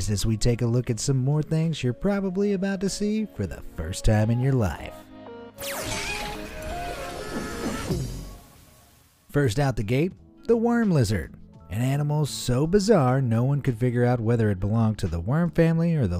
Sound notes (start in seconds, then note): 5.5 upbeat music; 5.9 character screaming